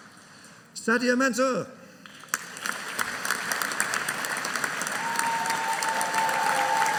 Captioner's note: audience cheering